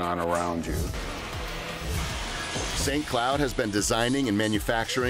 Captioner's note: machines grinding